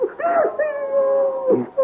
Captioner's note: baby crying